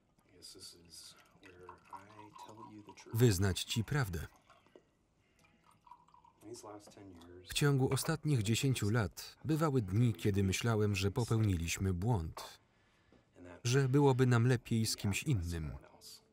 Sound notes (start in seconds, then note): 0.0 liquid pouring; 3.8 liquid pouring